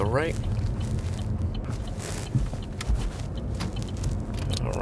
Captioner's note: indicator ticking